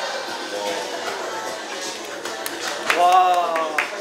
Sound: round of applause

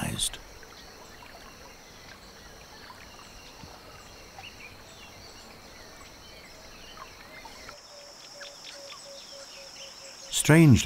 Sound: nature sounds

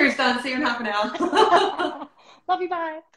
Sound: laughter

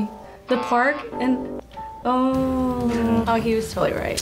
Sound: buzzer rings

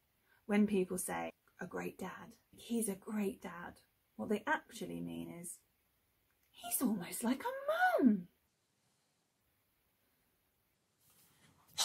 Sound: patronising voice

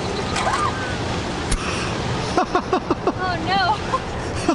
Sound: distant shriek; gasps and laughs; laughs

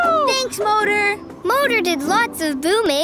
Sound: cheering

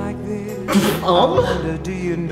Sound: laughs

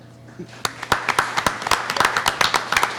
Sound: clapping

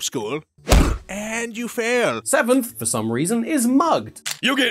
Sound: wham

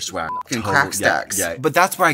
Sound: beep

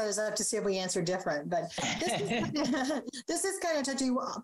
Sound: everyone laughing

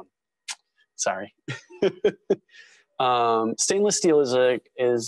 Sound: laugh

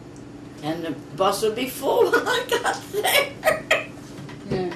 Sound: laughs

